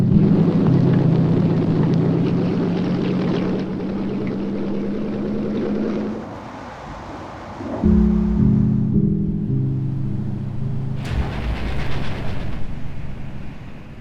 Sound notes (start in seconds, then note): 0.0 wind whistles; 0.0 tank engines rumbling; 6.0 airplane engines whirring; 11.0 train rattling